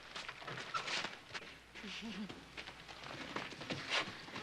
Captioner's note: laughs